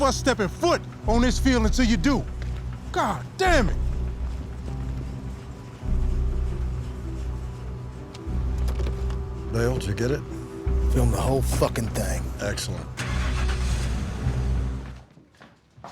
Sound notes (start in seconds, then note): 4.5 tense music; 12.9 truck starting